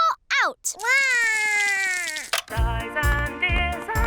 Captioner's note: cries